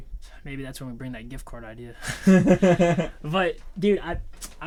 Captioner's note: laughs; Thomas laughing